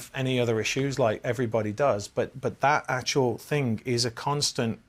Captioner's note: none